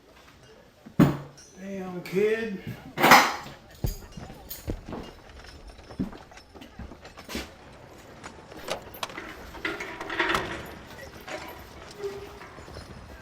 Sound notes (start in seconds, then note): 1.2 apple thuds; 10.5 iron clanking